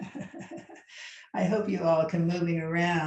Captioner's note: laughs